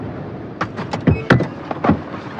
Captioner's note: beeping